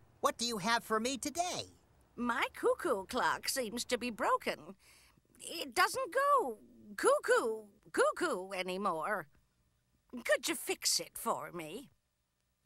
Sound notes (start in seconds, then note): none